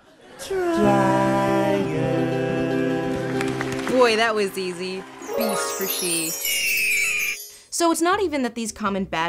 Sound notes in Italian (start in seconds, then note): 0.0 cantando; 4.3 voce fuori campo